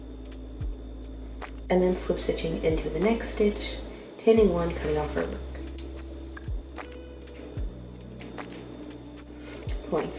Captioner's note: scissor cuts